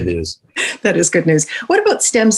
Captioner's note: laughing